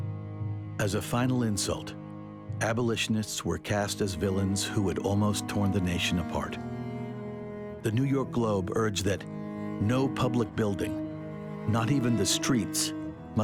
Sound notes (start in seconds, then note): none